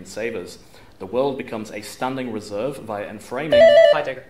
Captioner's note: buzz